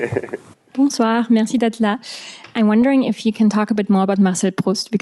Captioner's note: french